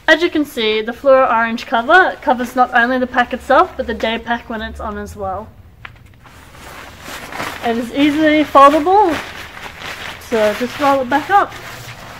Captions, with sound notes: As you can see, the fluoro orange cover covers not only the pack itself, but the day pack when it's on as well. (rustling) It is easily foldable, so I'll just roll it back up,